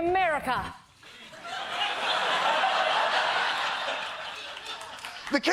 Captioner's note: laughter